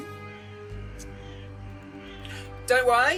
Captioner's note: doctor tuts